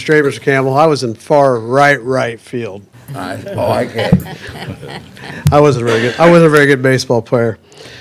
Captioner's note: laughter